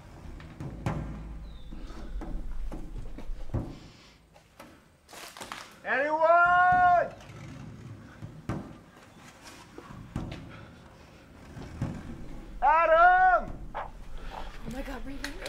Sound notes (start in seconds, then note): 13.5 radio sounds